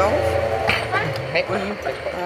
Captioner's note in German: Verkehrslärm